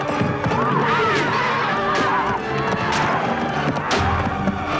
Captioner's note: spear stabbing